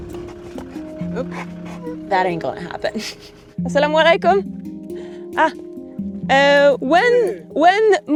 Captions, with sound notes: Oop! That ain't gonna happen. (speaks foreign language)